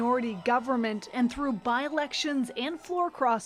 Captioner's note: applause